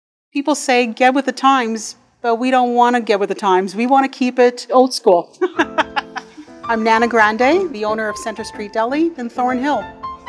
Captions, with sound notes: People say, ‘Get with the times,’ but we don’t wanna get with the times. We want to keep it old-school. [Laughs] I’m Nana Grande, the owner of Centre Street Deli in Thornhill.